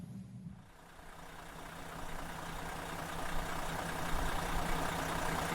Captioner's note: bus engine roaring